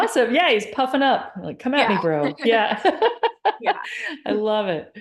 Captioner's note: laughs